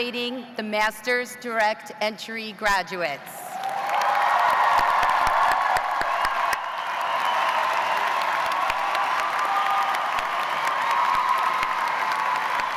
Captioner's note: cheers and applause